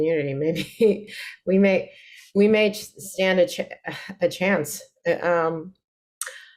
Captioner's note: chuckles